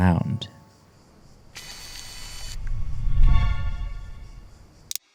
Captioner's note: zooooom; click